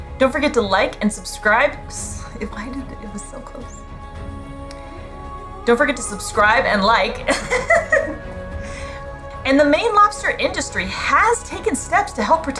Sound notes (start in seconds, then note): 3.6 background music; 7.0 laughs; 8.2 background music